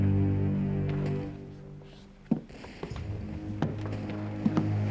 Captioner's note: footsteps